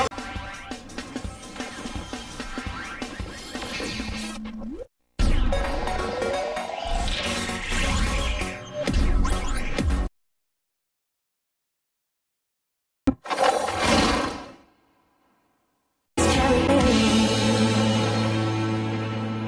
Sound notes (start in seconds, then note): 5.3 electronica music plays; 10.3 silence; 16.0 music finishes in a music snippet